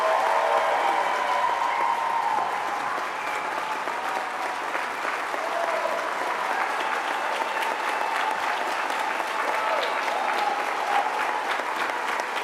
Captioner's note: cheers and applause